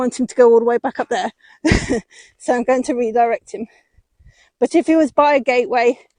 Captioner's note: laughs